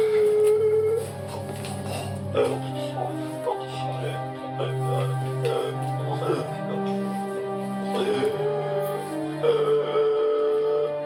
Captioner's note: Mike dying